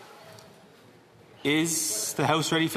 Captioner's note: speaking French